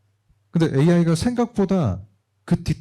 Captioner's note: speaking korean